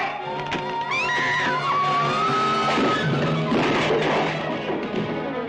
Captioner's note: Sheila screams